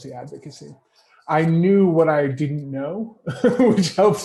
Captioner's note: laughs